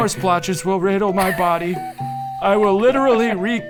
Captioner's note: laughing